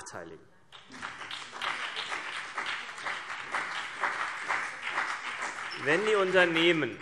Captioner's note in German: Beifall CDU und BÜNDNIS 90/DIE GRÜNEN